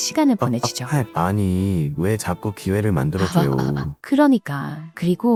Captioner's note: laughs